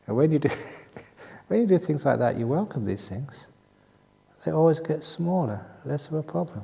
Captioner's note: chuckle